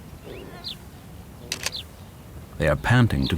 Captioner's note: camera clicks